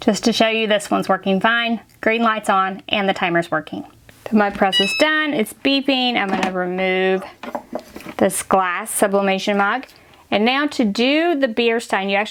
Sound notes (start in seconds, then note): 4.6 beeps